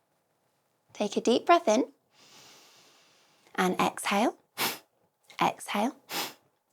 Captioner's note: exhale